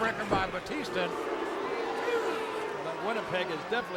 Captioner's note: crowd booing